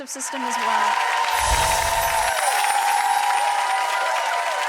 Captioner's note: audience applause